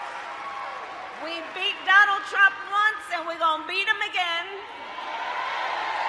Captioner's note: applause